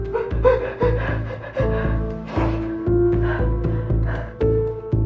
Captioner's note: sobbiobbing